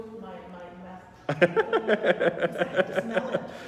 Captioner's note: laughing